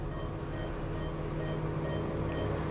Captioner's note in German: Piepen